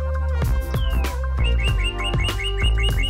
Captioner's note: J$J Birds Chirping